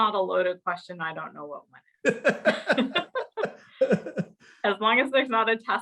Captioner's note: both laughing